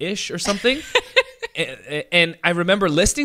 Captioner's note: laughs